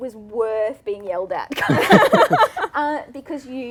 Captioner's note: laughter